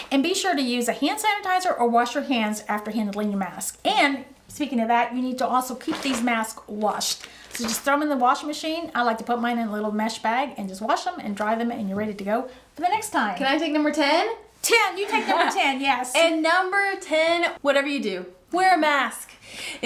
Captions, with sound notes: And be sure to use a hand sanitizer or wash your hands after handling your mask. And speaking of that, you need to also keep these mask washed. So just throw them in the washing machine. I like to put mine in a little mesh bag and just wash them and dry them and you're ready to go for the next time. - Can I take number 10 - 10, you take number 10, yes. - (laughing cheerful) And number 10, whatever you do wear a mask.